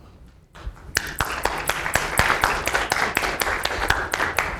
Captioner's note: applause